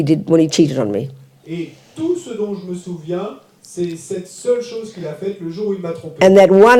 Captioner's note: French